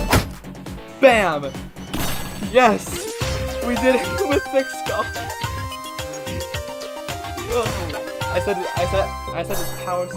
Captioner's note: laughing